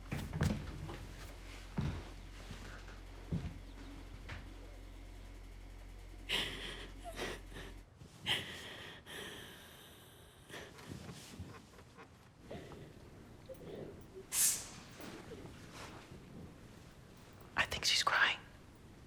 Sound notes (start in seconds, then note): 7.9 Amelia sobbing